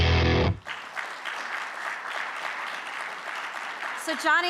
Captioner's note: upbeat music; audience clapping